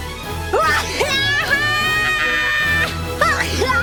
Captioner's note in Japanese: くしゃみ